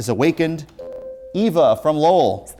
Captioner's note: ringing